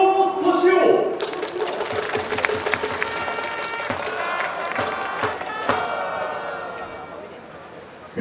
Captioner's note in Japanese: 拍手･応援